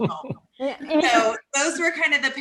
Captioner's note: chuckling